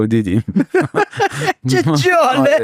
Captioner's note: laughs